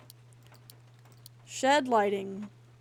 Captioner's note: none